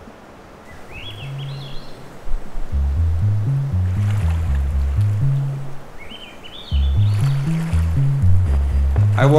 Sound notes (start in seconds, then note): 0.6 birds chirping; 2.7 light music; 7.1 waves crashing